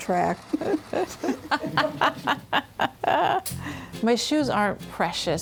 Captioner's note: both laugh